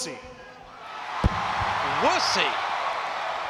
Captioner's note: audience cheering